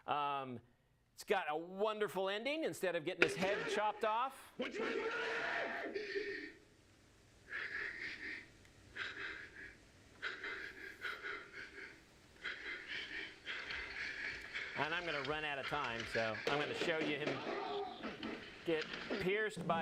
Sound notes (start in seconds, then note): 4.6 man shouts; 7.6 Macbeth panting